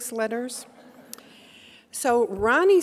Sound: audience laughing

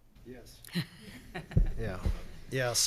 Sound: board member laughs

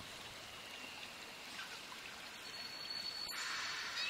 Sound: nature sounds

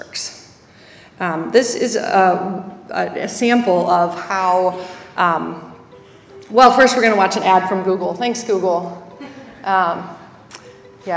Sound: laugh

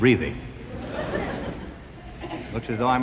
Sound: audience laughing

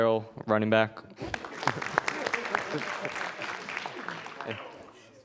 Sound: audience applauding

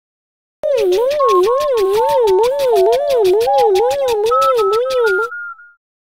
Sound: beeps and shaking noises

